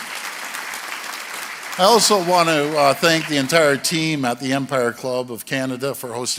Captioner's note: applause